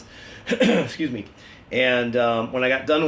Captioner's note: clears throat